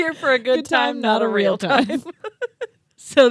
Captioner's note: laugh